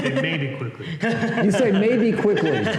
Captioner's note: laughter